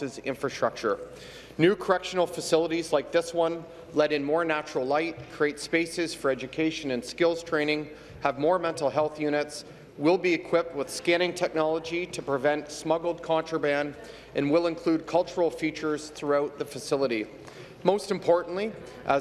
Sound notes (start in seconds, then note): none